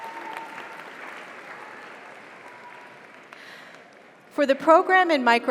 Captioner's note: audience cheers; audience applauds